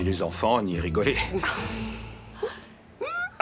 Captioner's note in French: rire